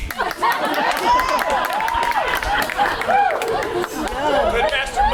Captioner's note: audience applauding; audience laughing